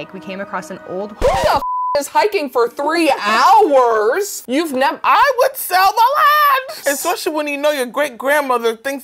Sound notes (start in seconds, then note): 1.4 beep